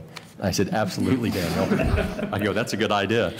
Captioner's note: laughter